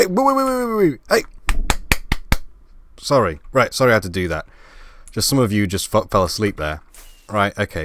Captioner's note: clapping